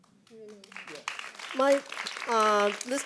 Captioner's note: audience applauds